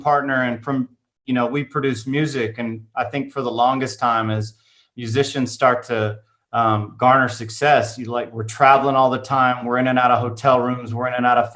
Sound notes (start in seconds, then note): none